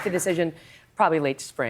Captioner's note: applause